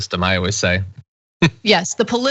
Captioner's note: laugh